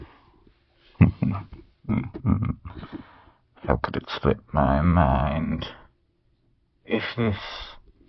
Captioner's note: chuckles quietly